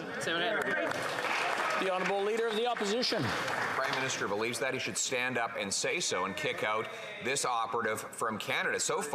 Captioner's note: yelling